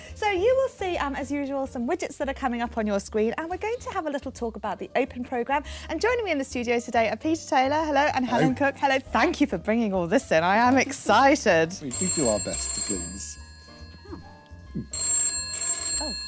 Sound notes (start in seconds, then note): 11.8 phone ringing